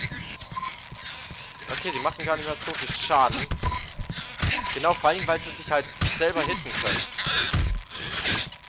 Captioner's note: weird glitchy sounds